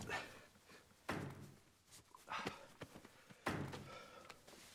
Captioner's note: lee hitting stapler